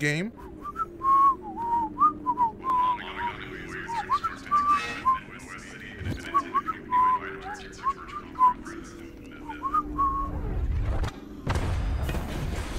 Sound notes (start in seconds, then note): 0.3 nonchalant whistling